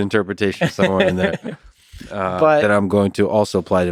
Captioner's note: Tim laughs